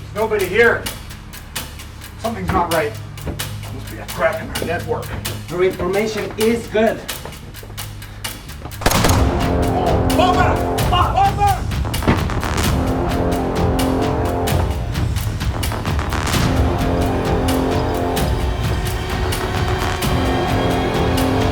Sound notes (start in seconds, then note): 8.8 gunshots booming; 13.1 suspenseful music